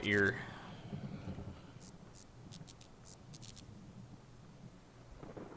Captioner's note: electric light buzzes